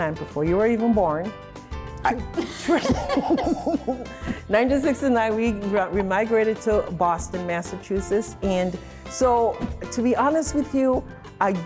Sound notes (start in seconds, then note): 2.3 both laughing